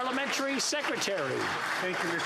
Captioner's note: some Applause